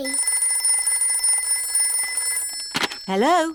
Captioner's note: phone rings